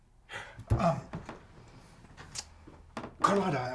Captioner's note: clicks tongue